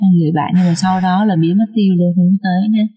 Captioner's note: sigh